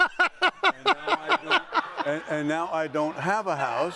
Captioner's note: laughs